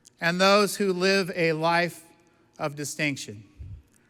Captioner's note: none